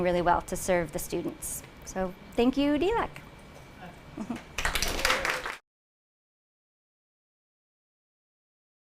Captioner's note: clapping